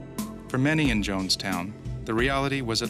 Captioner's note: voiceover